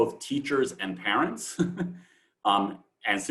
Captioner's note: chuckles